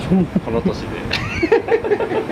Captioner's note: laughs